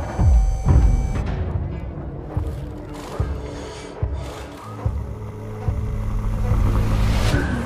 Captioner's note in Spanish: garage sounds